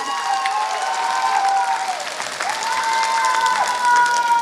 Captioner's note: applause